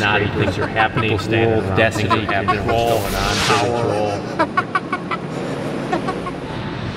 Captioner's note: police chief cackling